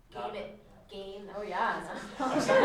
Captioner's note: laughter